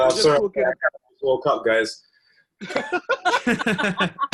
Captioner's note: laughing